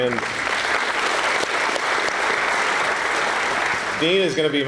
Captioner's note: applause